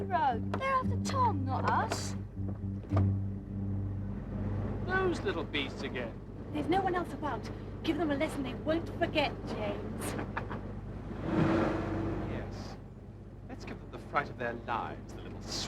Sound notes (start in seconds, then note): 9.9 laughs